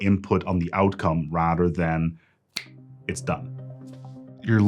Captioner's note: snaps fingers